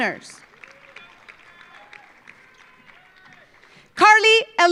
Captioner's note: audience applauding